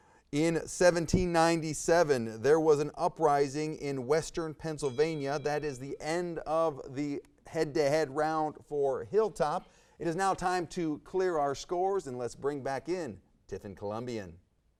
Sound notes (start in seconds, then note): 4.6 bell rings